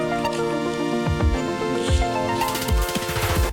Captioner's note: footsteps